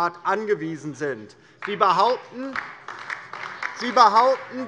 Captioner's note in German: Beifall DIE LINKE, vereinzelt SPD und BÜNDNIS 90/DIE GRÜNEN - Lachen AfD